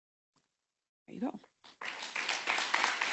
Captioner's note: audience applauding